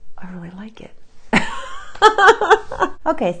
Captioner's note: laughs